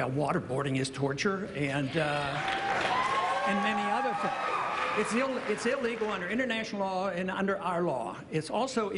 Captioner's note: cheering